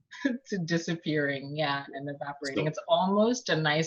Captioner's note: laughs